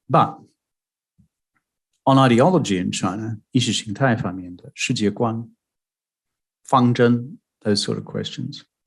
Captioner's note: speaking mandarin